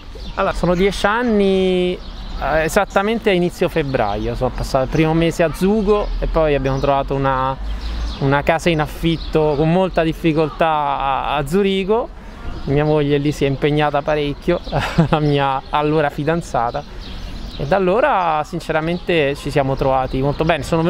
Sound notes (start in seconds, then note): 14.6 laughs